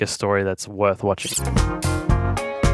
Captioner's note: upbeat music; static crackling